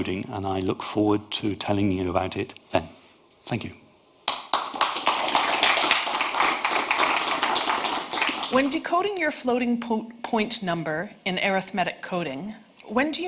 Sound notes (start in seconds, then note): 4.2 audience applauding